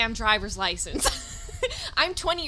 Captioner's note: laughs